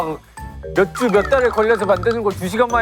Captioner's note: Whining